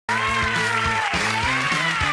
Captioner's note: upbeat music; audience applauds